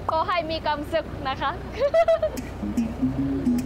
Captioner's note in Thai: เสียงหัวเราะ